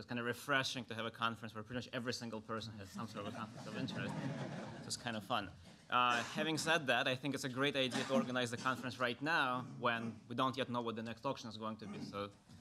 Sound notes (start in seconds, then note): 2.9 laughter